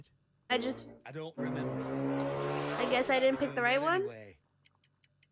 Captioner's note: car vroom